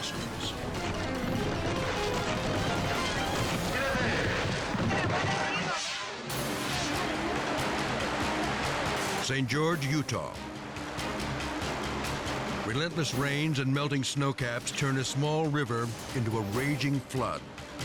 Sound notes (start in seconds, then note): 0.0 dramatic music; 5.5 air whooshes; 5.5 intense music